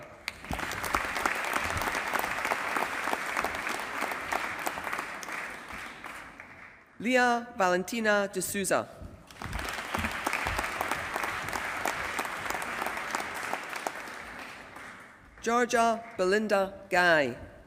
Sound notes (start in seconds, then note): 0.0 applause; 9.3 applause